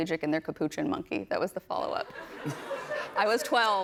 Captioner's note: laughter